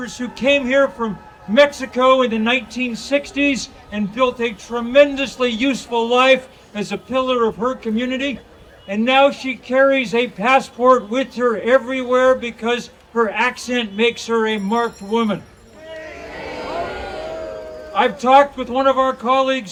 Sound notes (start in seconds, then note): 15.7 audience cheering